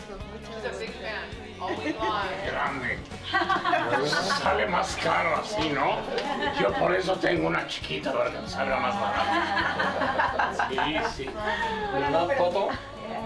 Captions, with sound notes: >> Mucho gusto, mucho gusto. >> She's a big fan. >> We are. >> Grande. >> [LAUGH] >> ¿Sale más caro así, no? >> [LAUGH] >> Yo por eso tengo una chiquita, para que me salga más barato. >> [LAUGH] >> Sí, sí. >> ¿Y le da todo? >> Yeah.